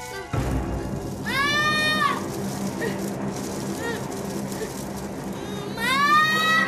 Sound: screams, whimpers

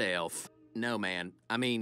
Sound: none

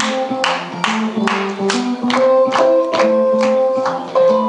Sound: audience applauds

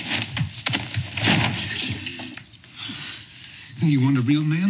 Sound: body slamming into wall

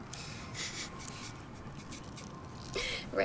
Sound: laughing

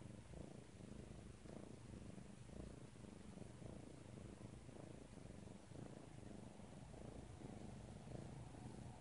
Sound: purring continues

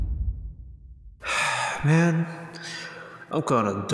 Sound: sigh

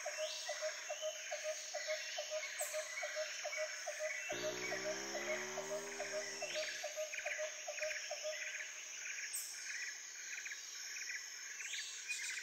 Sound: tropical sounds

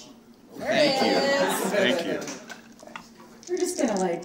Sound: laughing

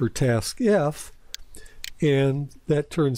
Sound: PowerPoint click

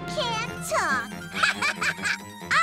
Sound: laughing

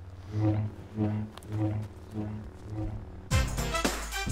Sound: lightsaber hums

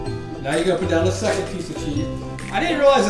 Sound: voiceover

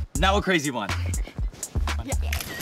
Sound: camera flashing

